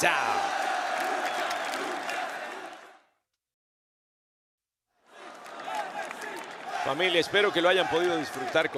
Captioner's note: applause